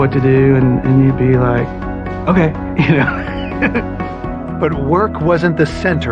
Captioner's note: laughs